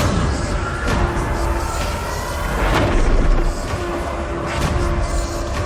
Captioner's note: distorted whispering